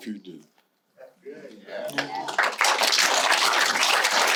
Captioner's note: audience applause